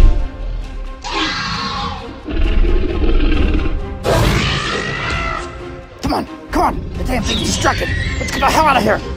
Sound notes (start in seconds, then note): 1.0 Velociraptor screeches